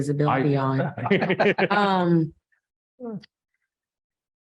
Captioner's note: all laughing